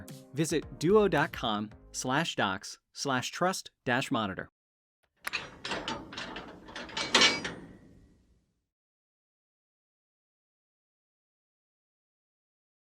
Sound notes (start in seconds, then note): 5.2 metal clangs